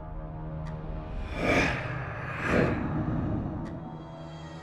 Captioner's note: monster rasping softly; soft tense music